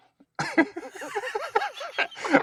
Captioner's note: laughing